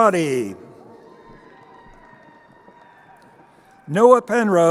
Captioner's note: crowd cheering